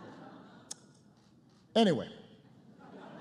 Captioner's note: laughter